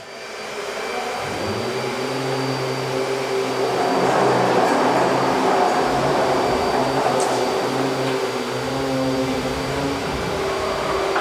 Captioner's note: machine whirring